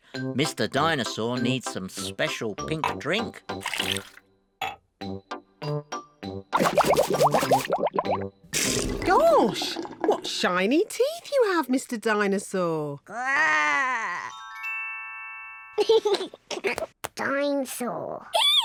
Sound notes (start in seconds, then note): 6.5 bubbles; 15.8 giggles